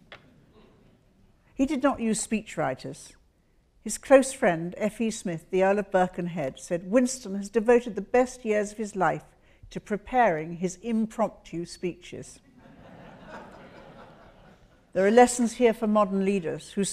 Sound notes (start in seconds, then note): 0.2 audience laughs; 12.6 audience laughs